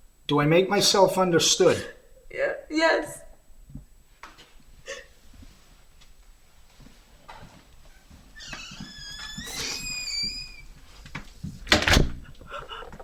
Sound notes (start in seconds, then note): 4.8 sobbing; 8.3 door creaking